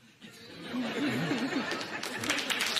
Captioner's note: laughter